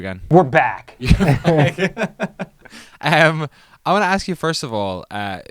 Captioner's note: everyone laughs